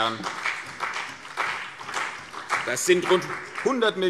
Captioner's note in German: Beifall CDU und BÜNDNIS 90/DIE GRÜNEN